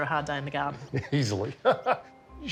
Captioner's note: laughs